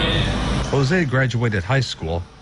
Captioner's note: nat sound-- restaurant